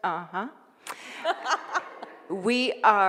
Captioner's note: laughing